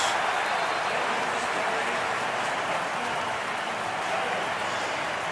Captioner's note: cheering